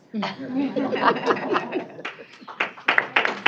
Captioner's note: laughter; applause